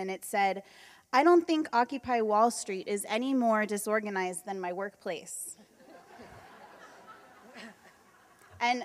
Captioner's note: laughter